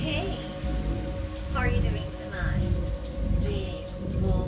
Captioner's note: woman chattering